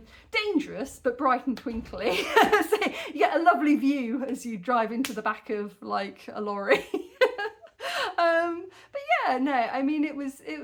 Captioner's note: laughing